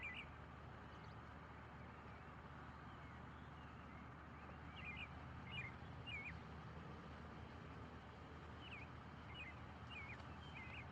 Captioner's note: birds chirping